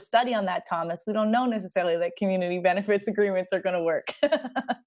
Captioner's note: laughter